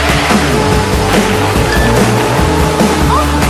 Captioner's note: crash!